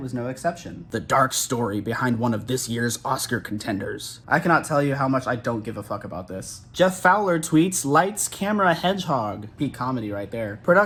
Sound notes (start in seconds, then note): none